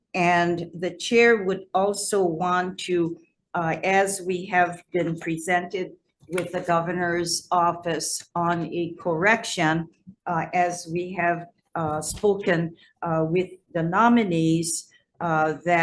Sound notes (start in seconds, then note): none